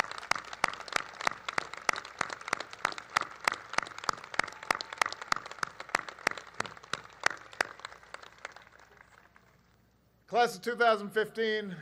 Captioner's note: applause